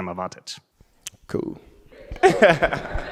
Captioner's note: lacht